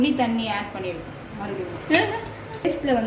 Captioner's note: laughing